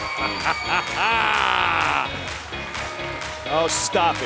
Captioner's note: laughter